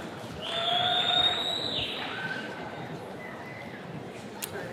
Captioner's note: attendees cheering